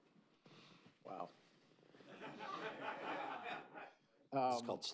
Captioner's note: laughter